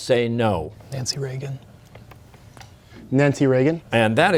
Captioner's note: whispering